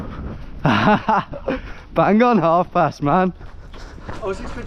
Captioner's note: chuckles